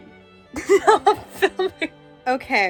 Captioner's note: laughs